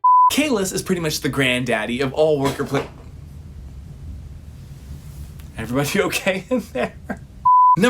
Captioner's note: loud crash from the kitchen